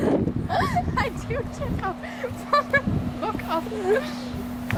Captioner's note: laughing